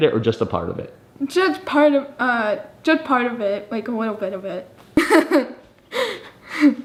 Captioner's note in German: lacht